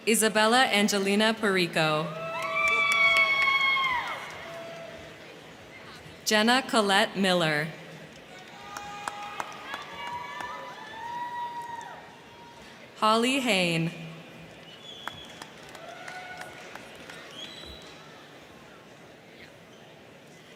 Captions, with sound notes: Isabella Angelina Porreco. (crowd cheering) (crowd clapping) Genna Collette Miller. (crowd cheering) (crowd clapping) Holly Hoehn. (crowd cheering) (crowd clapping)